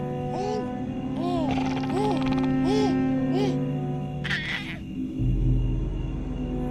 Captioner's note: alien growls; baby coos